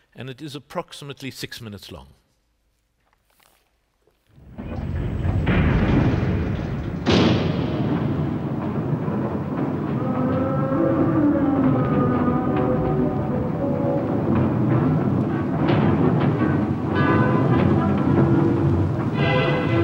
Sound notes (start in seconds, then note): 4.6 clanking sound; 10.1 train whistle